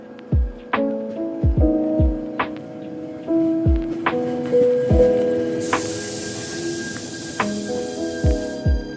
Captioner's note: sound of train approaching